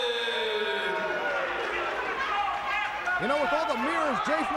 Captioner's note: crowd chatter